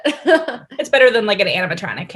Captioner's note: chuckling